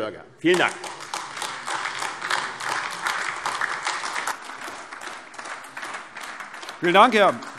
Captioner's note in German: Beifall AfD